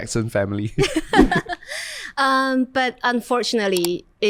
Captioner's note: laughs